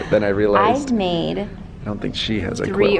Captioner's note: laughs